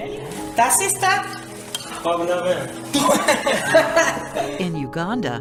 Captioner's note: laughter